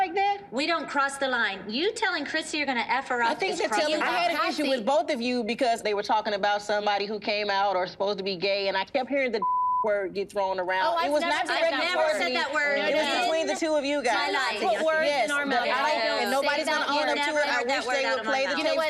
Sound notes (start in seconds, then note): 14.2 overlapping chatter